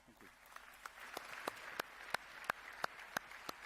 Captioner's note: applause